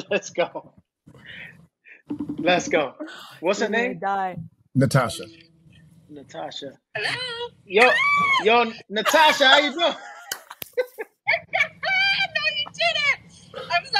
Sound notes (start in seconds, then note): 0.1 laughing; 2.1 phone ringing; 7.7 screaming; 9.0 laughing